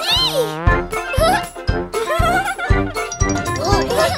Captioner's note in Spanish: Risas